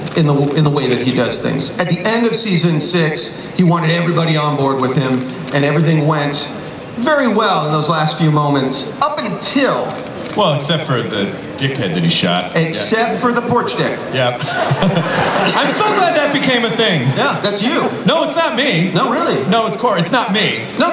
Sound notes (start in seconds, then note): 14.3 chuckles